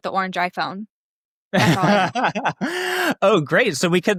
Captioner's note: laughs